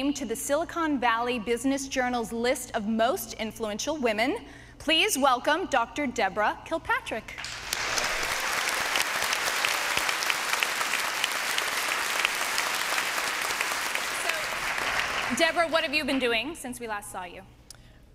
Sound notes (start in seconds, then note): 7.4 applause